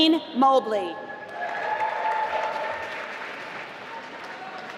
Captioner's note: applause